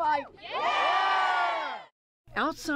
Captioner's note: cheering and applause